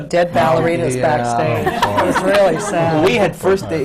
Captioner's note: laughter